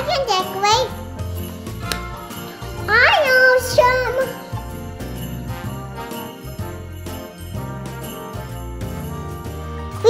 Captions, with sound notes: - I can decorate. (claps) I'm awesome. (jazzy festive music)